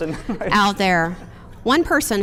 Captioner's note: chuckles